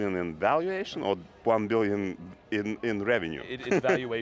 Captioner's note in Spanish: risas